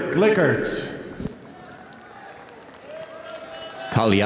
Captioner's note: audience applauding